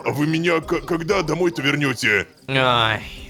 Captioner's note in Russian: ворчит